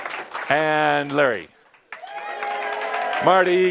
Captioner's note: some applause and a few woos; much audience approval and applause; some applause